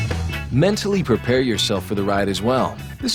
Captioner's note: upbeat rock music; voiceover